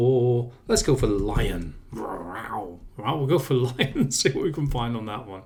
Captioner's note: roars